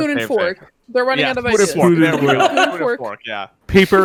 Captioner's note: laughing